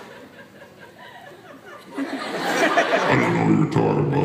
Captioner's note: audience laughter